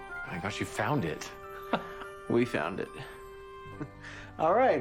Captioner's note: chuckles